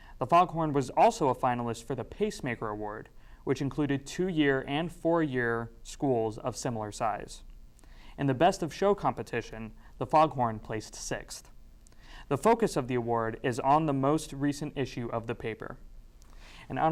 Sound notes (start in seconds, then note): none